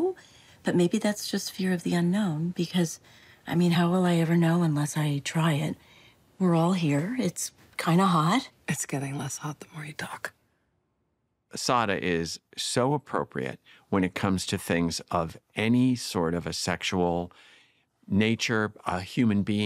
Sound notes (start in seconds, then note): none